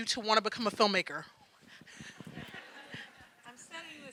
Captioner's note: audience laughing